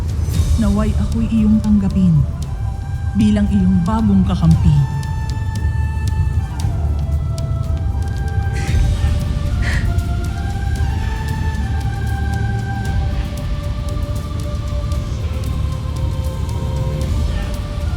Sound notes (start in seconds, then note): 0.0 epic music playing; 5.3 wind howling